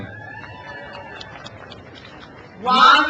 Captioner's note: crowd cheers